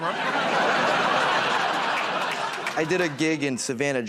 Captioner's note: laughter